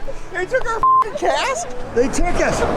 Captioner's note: beep